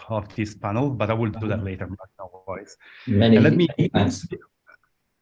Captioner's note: laughter